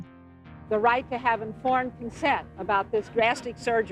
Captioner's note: soundbite of archived recording